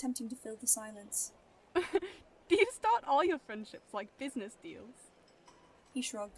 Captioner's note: Lily laughs